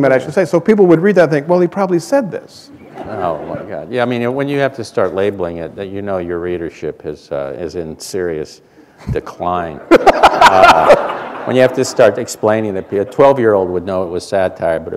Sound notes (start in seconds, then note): 9.8 laughter